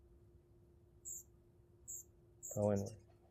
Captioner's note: birds chirping